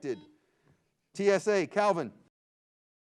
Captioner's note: buzzer beeps